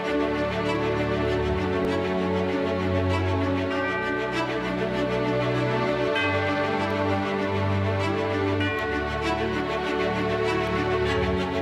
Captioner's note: bells tolling